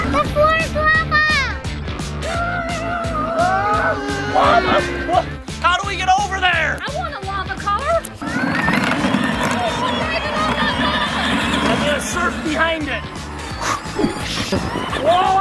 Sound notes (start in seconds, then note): 2.2 screaming